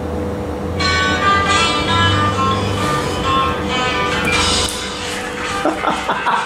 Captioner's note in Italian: suoneria di cellulare